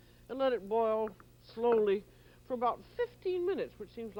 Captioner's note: none